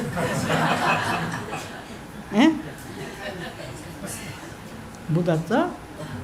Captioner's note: laughter